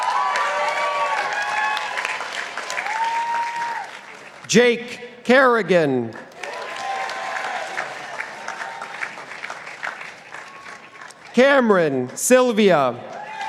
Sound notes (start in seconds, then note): 0.0 participants applauding; 6.1 participants applauding